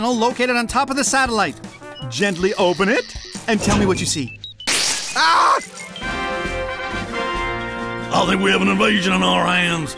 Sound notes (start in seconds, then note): 4.7 zapping